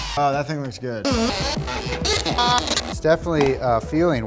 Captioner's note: drilling